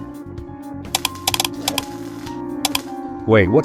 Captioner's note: light switch flickering